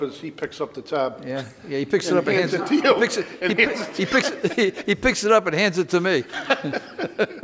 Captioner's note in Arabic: يضحك; يضحك